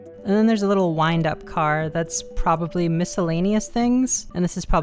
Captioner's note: none